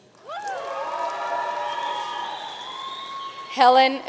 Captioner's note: audience cheering and applauding